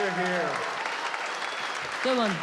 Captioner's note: applause